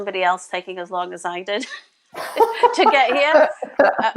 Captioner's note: laughs